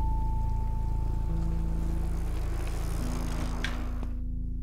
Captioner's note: bike rattling